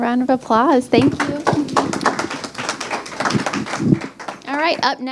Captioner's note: crowd applauds